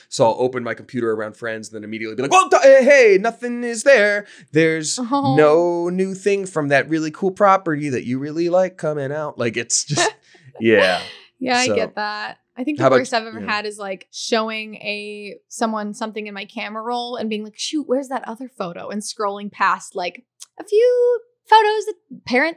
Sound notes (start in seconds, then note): 9.8 laughing